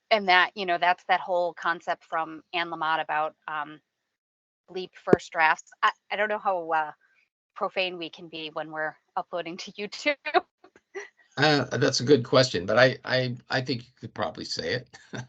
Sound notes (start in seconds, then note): 9.5 laughing; 14.2 laughing